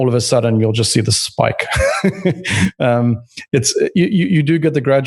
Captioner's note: laughs